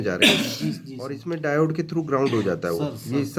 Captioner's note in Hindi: गला साफ़ करने की आवाज़